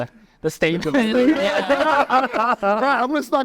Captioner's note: everyone laughing